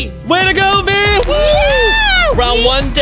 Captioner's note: cheering